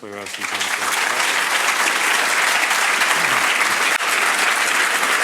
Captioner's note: crowd applauding